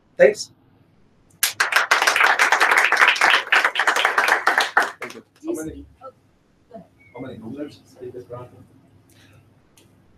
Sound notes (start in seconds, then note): 1.4 applause